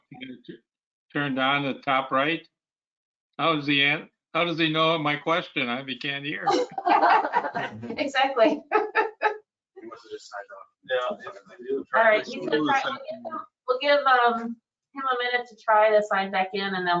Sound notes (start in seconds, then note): 3.4 mumbles; 6.4 all laughing; 6.4 laughs